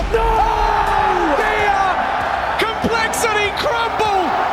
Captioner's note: commentators clamoring